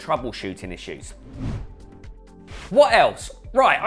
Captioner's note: logo whooshing